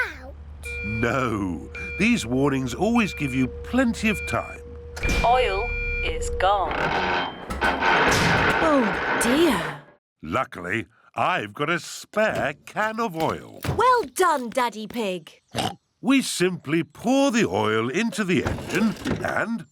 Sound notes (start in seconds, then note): 6.6 creaking; 15.5 oinks